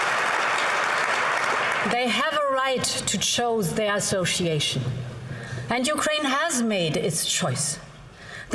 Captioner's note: applause